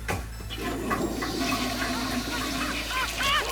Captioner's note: flush